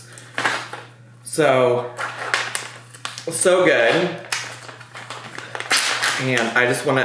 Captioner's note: packaging crackling